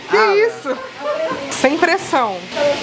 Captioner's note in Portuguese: risadas